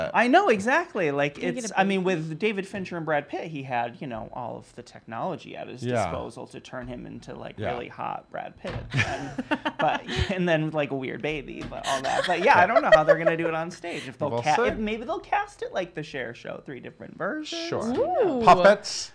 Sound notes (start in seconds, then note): 8.9 laughing